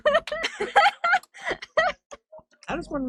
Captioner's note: giggles